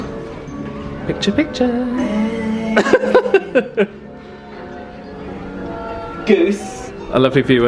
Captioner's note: laughs